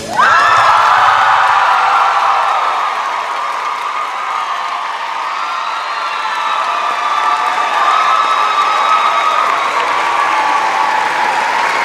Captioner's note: cheers and applause